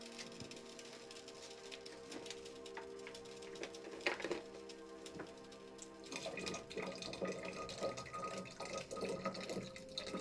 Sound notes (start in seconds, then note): 6.1 alcohol pouring